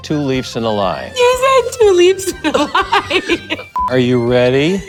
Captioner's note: laughs